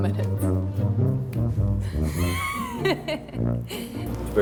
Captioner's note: laughing